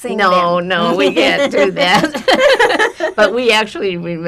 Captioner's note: laughing